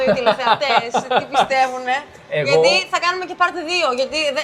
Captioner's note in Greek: γέλια